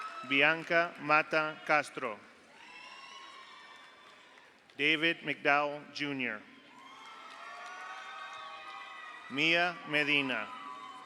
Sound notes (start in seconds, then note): 0.0 audience applauds; 0.0 audience cheers; 2.6 audience cheers; 2.8 audience applauds; 6.7 audience cheers; 6.8 audience applauds